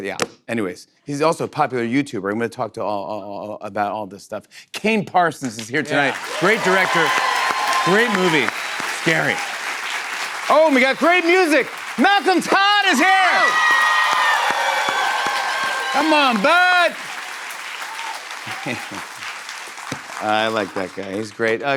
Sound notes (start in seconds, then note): 13.5 cheers and applause; 18.4 chuckles